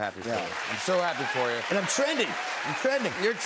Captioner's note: cheers and applause